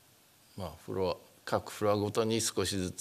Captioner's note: speaking japanese